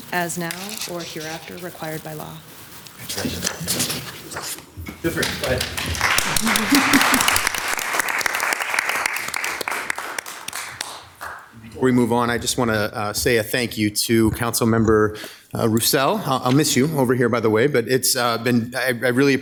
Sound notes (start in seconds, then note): 6.8 audience claps